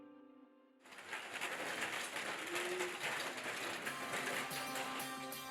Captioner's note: wheels rattling